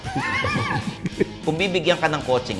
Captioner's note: laughs